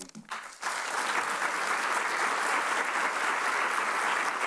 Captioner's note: audience applauds